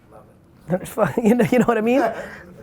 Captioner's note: laughs